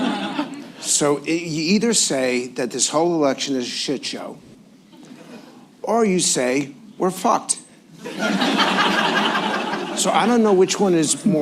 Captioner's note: laughter; laughter